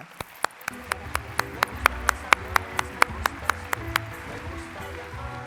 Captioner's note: applause, music playing